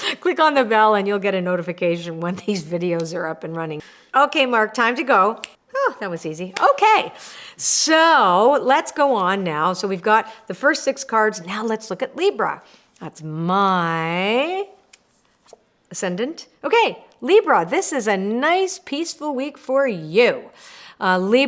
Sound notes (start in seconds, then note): 5.4 snaps loudly; 6.8 claps